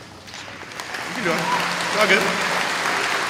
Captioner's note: applause